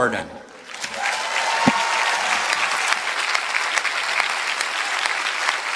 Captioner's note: applause